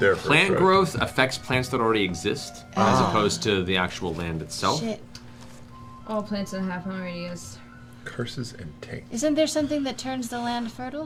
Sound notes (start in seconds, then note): none